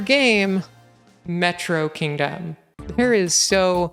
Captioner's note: reverb